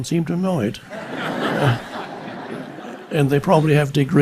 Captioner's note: audience laughs